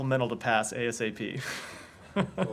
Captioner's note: laughter